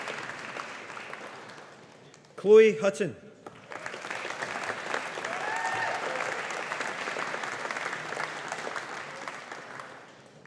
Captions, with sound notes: Chloe Hutton. (AUDIENCE APPLAUDING)